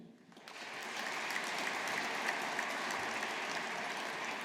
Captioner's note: audience applauding